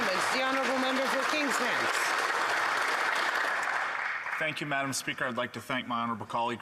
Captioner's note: applause